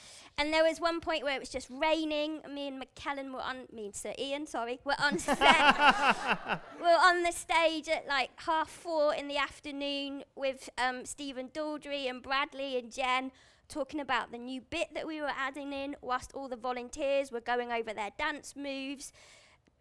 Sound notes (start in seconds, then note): 5.0 laughter